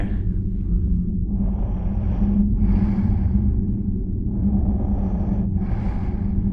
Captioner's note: deep animalistic breathing